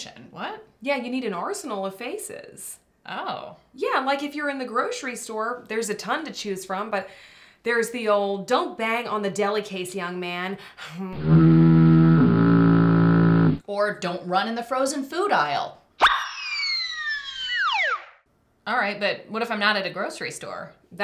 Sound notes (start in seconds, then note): 11.2 fog Horn Sound Effect; 16.0 slide Whistle Sound Effect